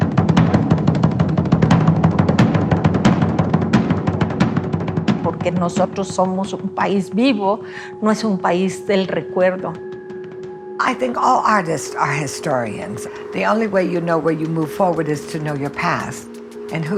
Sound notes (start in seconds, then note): 5.4 speaks Spanish